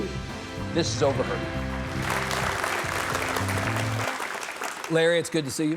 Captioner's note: audience clapping